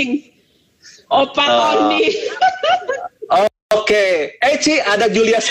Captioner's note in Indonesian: Tertawa